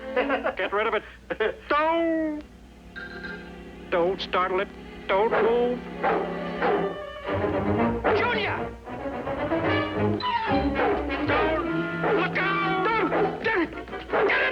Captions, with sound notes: GET RID OF IT! D'OH! DON'T STARTLE IT. DON'T MOVE. [ Dog Barking ] JUNIOR! LOOK OUT! GET IT!